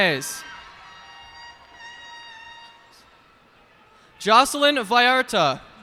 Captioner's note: cheers and applause